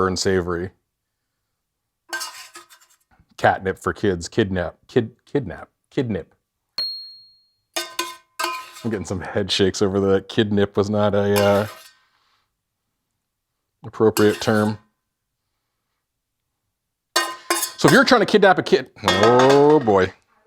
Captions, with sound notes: and savory catnip for kids. Kidnip. (image dings) (pan clanking) I'm getting some head shakes over the, kidnip was not a appropriate term. So if you're trying to kidnap a kid, oh boy.